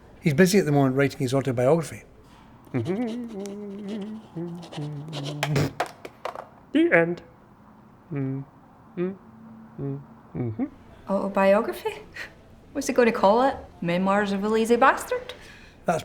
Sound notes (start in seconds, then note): 2.7 humming; 5.6 spitting; 7.9 humming; 10.3 scoffs